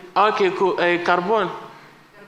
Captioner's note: speaking spanish